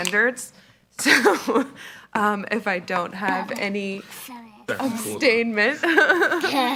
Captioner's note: laughs